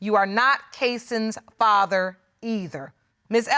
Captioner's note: none